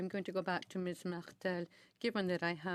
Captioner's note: speaking French